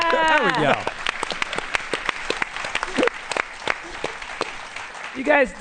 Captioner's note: applause